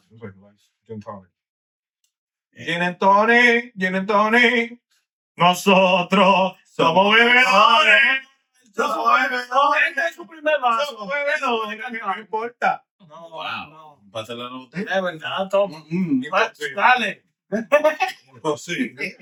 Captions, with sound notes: It was like gin tonic. (Speaking In Foreign Language)